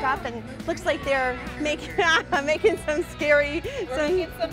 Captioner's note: laughs